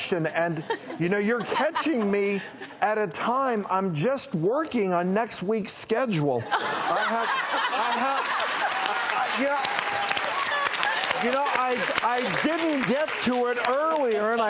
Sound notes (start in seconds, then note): 6.5 everybody laughs and claps